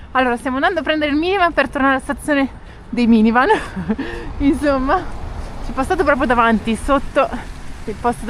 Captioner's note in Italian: risate